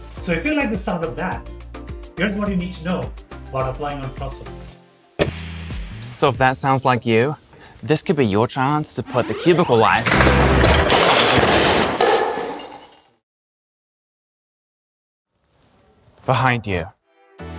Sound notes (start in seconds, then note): 10.0 cubicle crashing